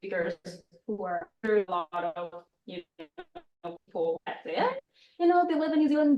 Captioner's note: sound breaks up